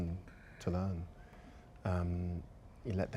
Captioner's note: bell peal in distance